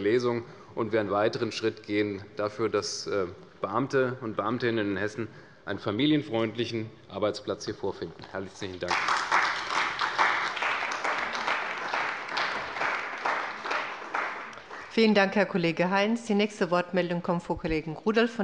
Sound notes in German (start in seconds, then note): 8.7 Beifall bei der CDU und dem BÜNDNIS 90/DIE GRÜNEN